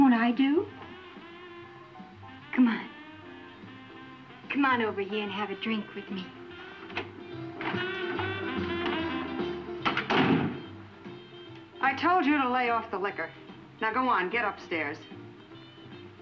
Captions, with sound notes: Won't I do? Come on. Come on over here and have a drink with me. (door unlatching) (door latching) - I told you to lay off the liquor. Now go on, get upstairs.